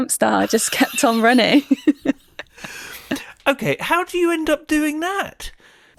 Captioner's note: laughs